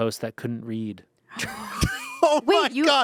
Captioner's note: everyone laughs